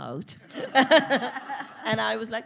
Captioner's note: audience laughing